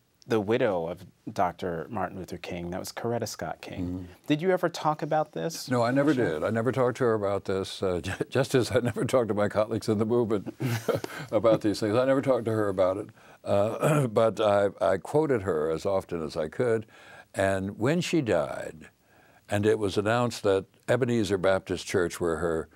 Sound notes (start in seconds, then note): 7.7 chuckles; 10.5 laughs